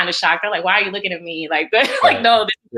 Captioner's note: laughs